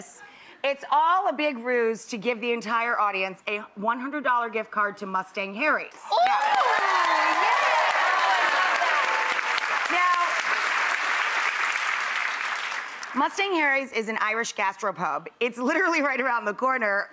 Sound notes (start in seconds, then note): 6.1 audience applause